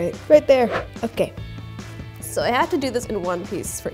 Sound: none

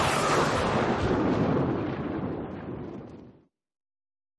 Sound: screaming

